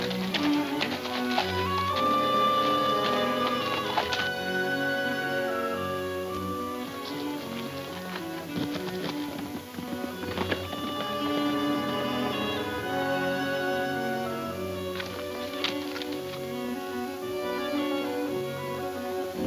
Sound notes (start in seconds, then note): 4.2 suspenseful music; 9.3 horses galloping